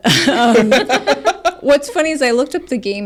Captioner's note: laughs